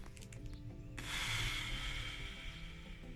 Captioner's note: sigh